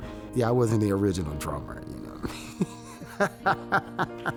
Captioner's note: laughing